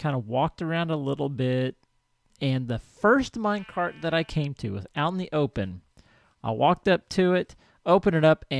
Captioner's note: sheep bleats